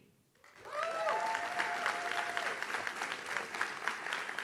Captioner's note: audience claps